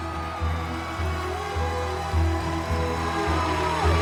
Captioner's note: cheers and applause